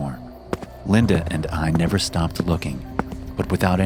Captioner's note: footsteps